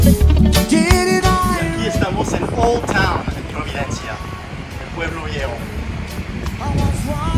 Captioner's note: in Spanish